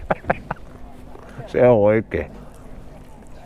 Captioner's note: laughter